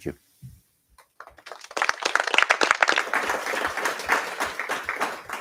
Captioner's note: applause